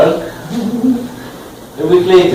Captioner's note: laugh